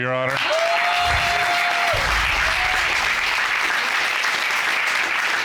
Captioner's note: applause